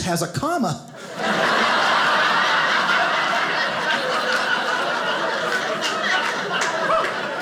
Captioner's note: audience laughing